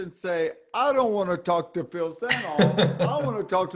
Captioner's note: laughing